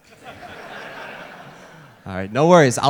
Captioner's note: audience laughter